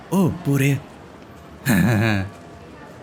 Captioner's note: silly chuckle